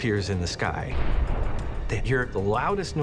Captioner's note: loud booming